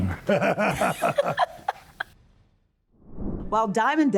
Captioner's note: laughing